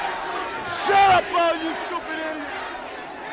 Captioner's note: crowd chatter